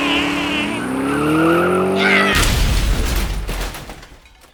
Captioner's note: crash